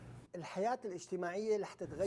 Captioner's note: speaking Arabic